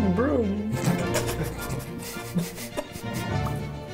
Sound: sniggering

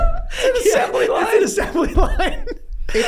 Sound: laughing

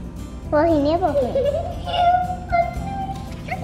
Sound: person laughing in excitement

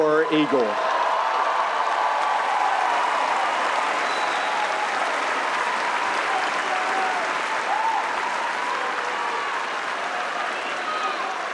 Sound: applause

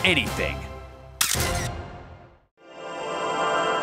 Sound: camera shutter clicks

